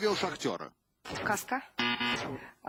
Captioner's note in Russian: пи-пи